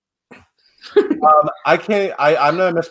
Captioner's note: laughs